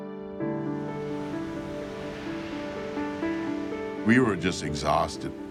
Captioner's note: gentle music; waves crashing